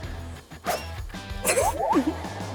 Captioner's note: whoosh